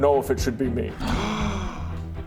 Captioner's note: gasp!